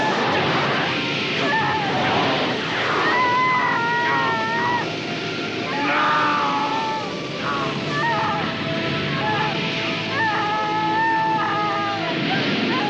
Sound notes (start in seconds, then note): 0.0 flames whooshing, Lisa crying; 11.0 dramatic music